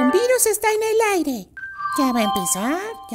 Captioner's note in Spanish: Sonido multimedia